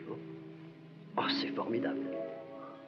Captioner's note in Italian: lingua francese